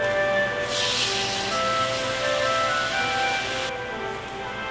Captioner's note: skillet sizzling; chill music